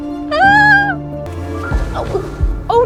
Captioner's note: Emma squeals